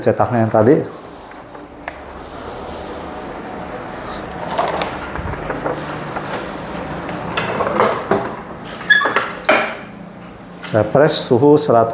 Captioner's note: printer machine noise